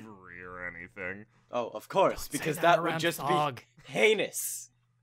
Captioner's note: quietly